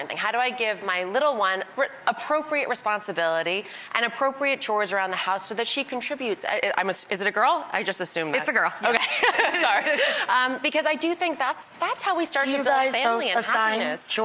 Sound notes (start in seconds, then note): 8.9 all laughing